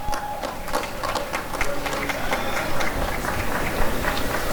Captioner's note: applause and cheering